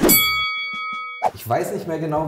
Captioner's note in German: woosh